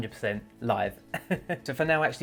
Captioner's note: laughs softly